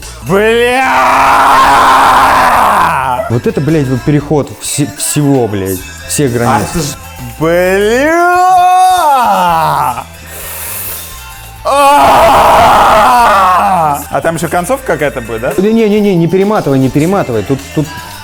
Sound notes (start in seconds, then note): 0.2 yells; 7.4 yells; 10.1 sharply inhales; 11.6 just yells in desperation